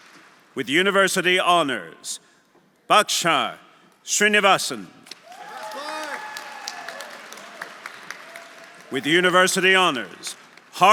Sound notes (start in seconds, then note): 5.2 audience applauding; 5.2 audience cheering